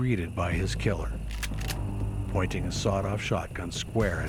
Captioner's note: gun cocks